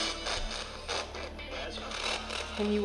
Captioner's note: spirit box voice